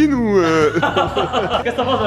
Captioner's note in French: rire